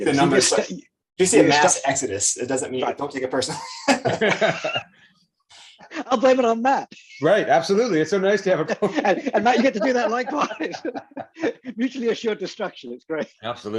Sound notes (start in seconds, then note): 6.2 laughs; 8.6 laughs